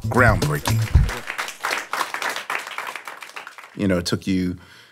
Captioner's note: audience applauding